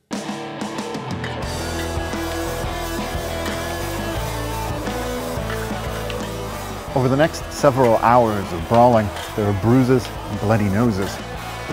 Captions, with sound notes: (electric rock guitar music) (men shouting) (hockey sticks clashing) Over the next several hours of brawling, there are bruises and bloody noses.